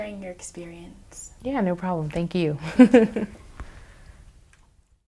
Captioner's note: chuckles